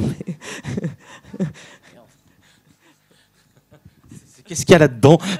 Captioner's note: laughs